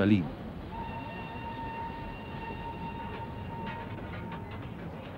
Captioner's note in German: Zug quietscht und pfeift